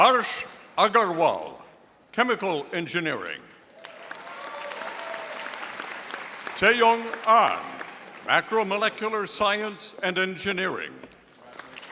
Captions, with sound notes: Harsh Agarwal, Chemical Engineering. (audience applauding) Taeyong Ahn, Macromolecular Science and Engineering.